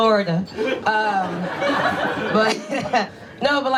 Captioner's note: audience laughs; chuckles